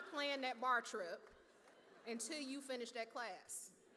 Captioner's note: laughter